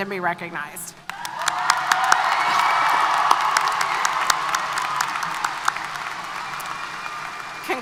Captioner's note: applause & Cheers